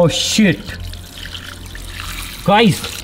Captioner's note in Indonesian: Air mengalir